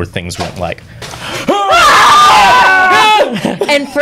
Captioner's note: screaming